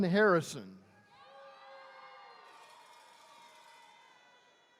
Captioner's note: attendees cheering